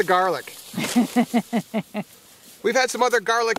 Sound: woman laughs

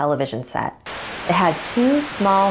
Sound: static

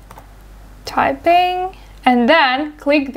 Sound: typing

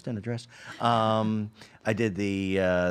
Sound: laughing

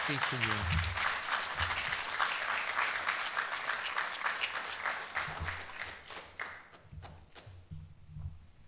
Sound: applause

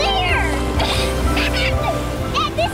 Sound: laughing

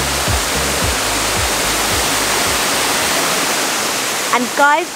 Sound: waterfall sound

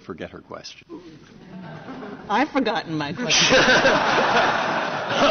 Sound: laughter

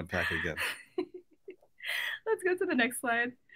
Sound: laughs

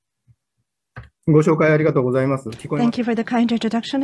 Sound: speaking japanese

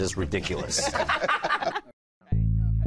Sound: laughter

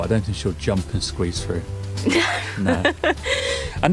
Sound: laughs

